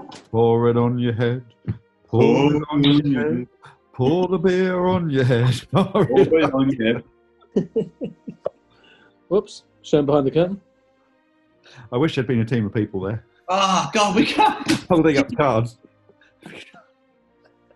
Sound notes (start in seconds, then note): 4.0 laughs; 7.5 chuckling